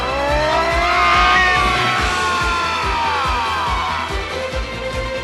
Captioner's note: kids scream; Falkor screams